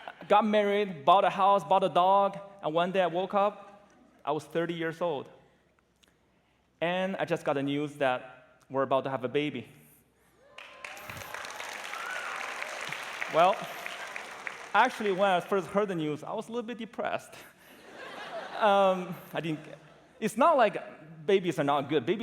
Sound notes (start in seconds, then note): 0.0 laughter; 10.5 applause; 17.6 laughter